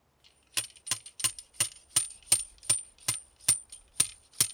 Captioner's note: stake tapping